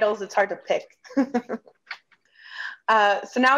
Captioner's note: laughs